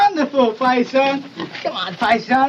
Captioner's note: squeals